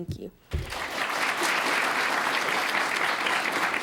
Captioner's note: applause